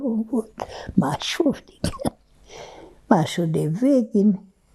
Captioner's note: laughing